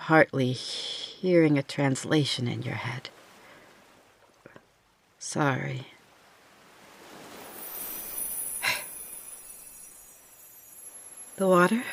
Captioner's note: magic sounds